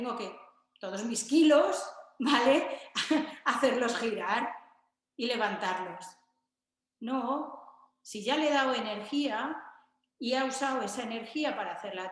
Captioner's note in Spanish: risas